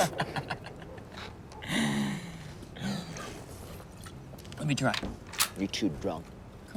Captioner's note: laughing